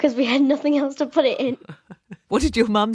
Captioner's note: laughing